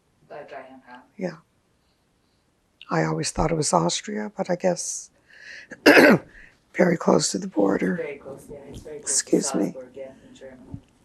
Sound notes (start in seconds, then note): 5.8 clears throat